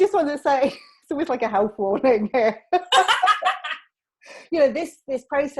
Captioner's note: both laughing